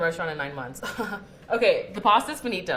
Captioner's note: laughing nervously